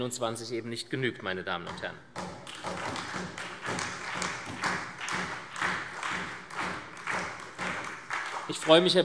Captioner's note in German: Beifall SPD